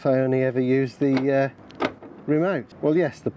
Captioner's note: motor clunk